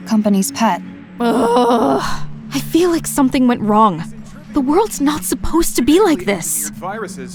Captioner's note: intense groan